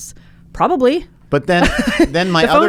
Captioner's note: laughs